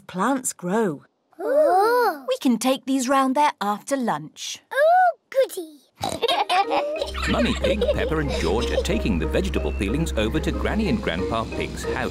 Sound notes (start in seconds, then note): 6.0 oinks; 6.0 both laugh